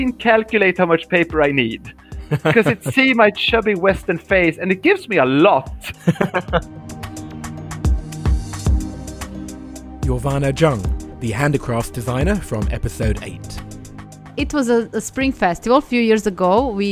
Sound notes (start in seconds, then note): 6.0 voiceover